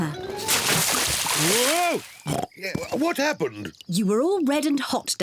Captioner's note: oinks